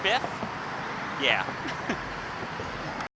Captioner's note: laughs